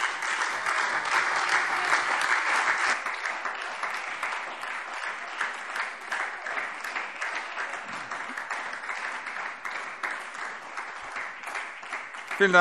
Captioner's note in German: Beifall SPD und Freie Demokraten